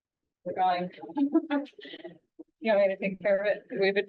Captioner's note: laughing